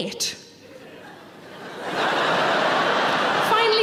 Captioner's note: audience laughing